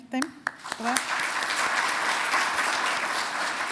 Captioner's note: applause